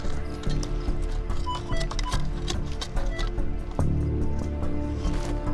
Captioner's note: beeping